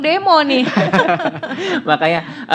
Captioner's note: laugh